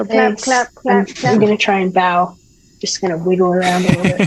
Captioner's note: all laughing